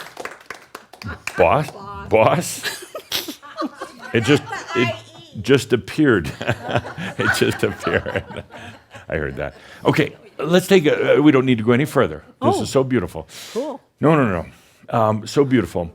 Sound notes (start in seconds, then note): 2.6 giggles; 6.2 chuckles, some laughter